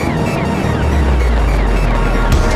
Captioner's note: wind blowing